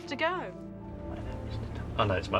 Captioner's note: whispering